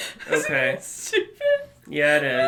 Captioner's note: laughs